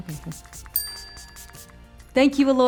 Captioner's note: spray hisses; bell pings